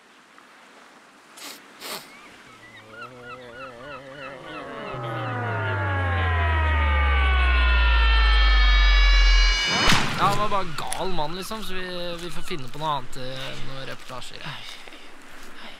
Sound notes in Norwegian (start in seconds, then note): 1.8 sniff; 3.6 bakken vibrerer, en dyp tone tar over